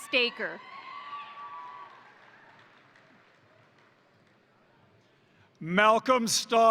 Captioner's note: crowd cheering; crowd applauding